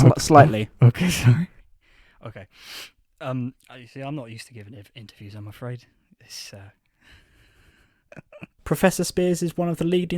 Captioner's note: haha